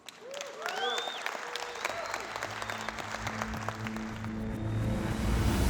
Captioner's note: applause